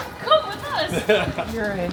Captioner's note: man laughing